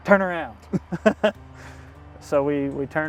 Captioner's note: chuckles